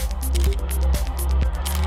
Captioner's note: camera shutter